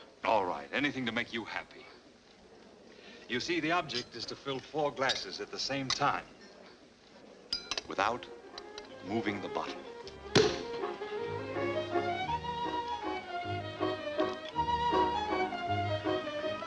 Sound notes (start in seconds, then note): 10.3 cork pops; 11.5 melodious music